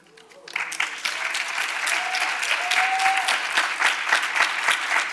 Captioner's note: audience applauds